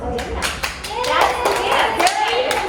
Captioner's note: group claps